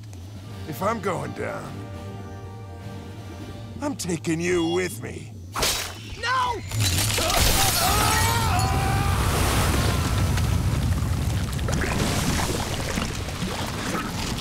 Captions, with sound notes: If I'm going down... I'm taking you with me. No! [screaming]